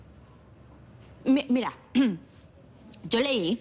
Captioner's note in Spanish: Carraspea